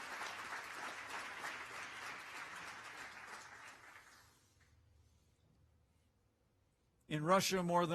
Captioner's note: applause